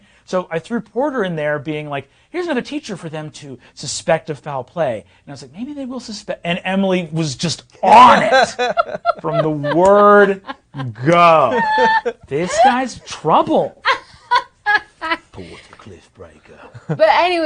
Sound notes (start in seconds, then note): 7.9 others laughing; 14.2 laughing